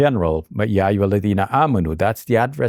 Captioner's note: talks in foreign language